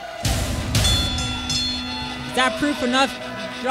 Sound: ring bell tolls

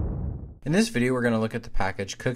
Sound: voiceover

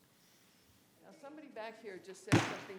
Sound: gavel bangs

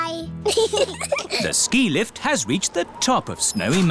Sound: both giggle

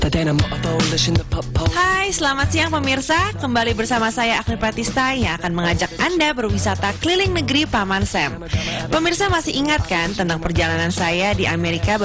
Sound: non-english speech

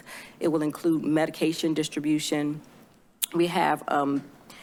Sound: clicks tongue

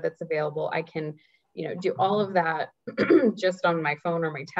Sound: clears throat

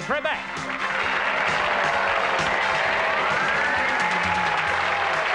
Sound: audience applauding

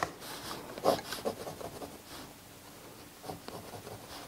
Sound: pencil scrapes

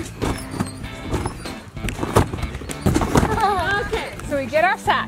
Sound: trampoline booming; trampoline squeaking

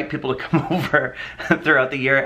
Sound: laughs

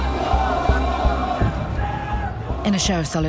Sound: crowd shouting

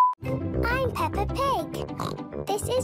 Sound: oink

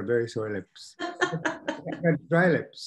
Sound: laughing

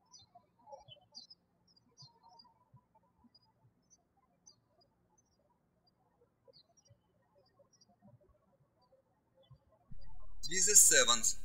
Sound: birds chirping

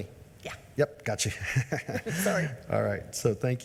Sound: laughs

